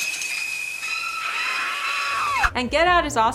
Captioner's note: screams